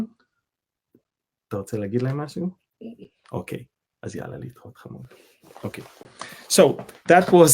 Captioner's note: speaking Hebrew